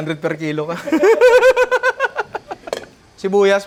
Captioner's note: laughing